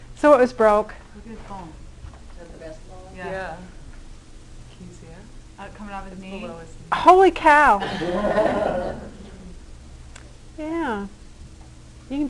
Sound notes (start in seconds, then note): 7.8 class laughter